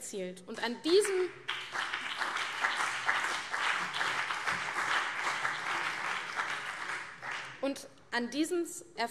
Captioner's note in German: Beifall CDU und BÜNDNIS 90/DIE GRÜNEN